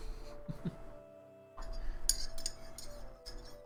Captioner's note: chuckles; spoon clinks inside mug